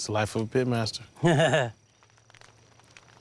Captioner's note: laughing